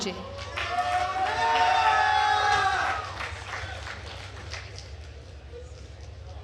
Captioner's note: attendees cheering and applauding